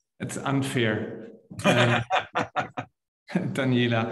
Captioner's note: laughing